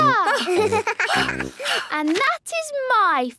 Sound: giggles; panting

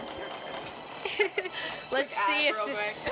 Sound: me laughing for some reason

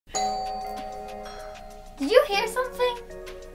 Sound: doorbell rings

